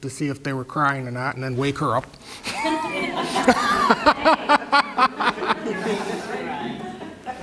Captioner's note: laugh; audience laughter